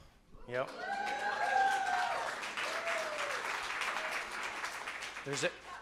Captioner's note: cheers and applause